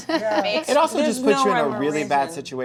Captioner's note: laughs